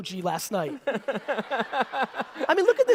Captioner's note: audience laughter